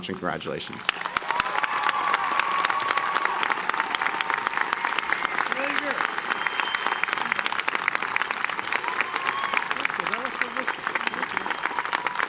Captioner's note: applause